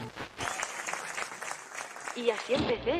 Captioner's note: applause